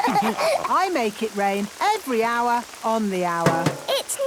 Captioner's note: all laughing; taps